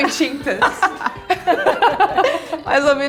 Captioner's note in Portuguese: risos